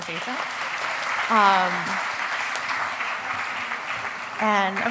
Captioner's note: applause